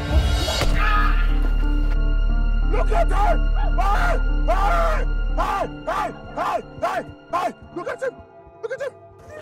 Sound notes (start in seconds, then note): 0.6 Tony screaming; 5.6 Jerry shouting